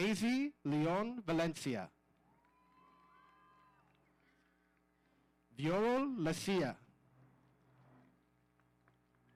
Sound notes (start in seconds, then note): 2.2 audience cheering